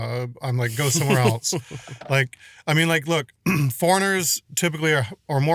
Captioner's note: laughs